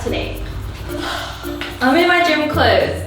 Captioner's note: sigh